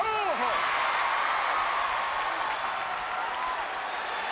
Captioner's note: crowd cheers